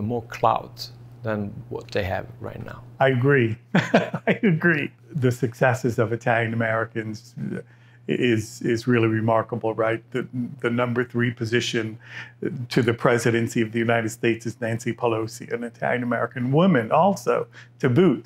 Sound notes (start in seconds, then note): 3.7 laughs